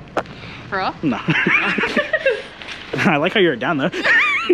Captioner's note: laugh